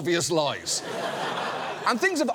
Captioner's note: studio audience laughs